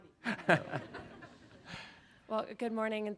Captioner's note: Governor Cox chuckling